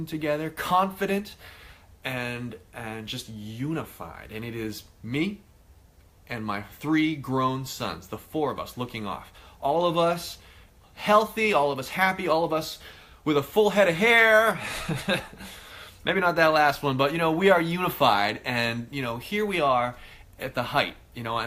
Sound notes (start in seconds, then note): 14.6 laughing